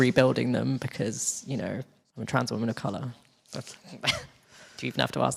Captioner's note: chuckles